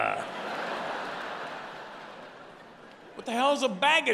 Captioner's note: audience laughing